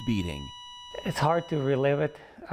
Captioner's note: monitor beeping